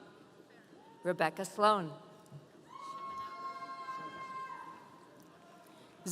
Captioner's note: audience cheering